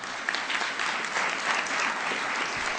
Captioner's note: applause